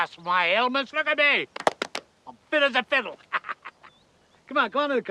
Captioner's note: cackling